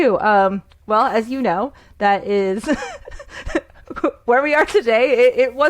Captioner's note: laughs